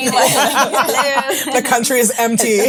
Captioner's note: all laugh